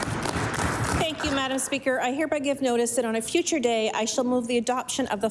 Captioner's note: applause